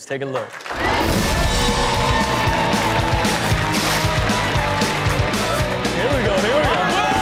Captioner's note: audience cheers; upbeat music